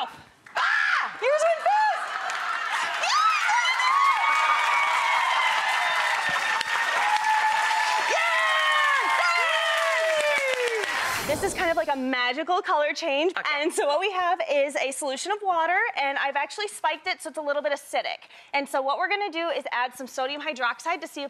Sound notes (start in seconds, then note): 1.1 shrieks; 4.4 applause; 9.4 cheering